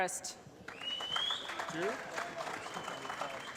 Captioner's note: applause